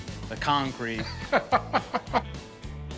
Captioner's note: Rick laughs